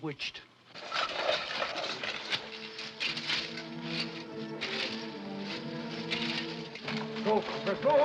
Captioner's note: objects clattering & coins jingling; ominous music